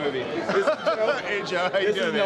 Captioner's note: laughing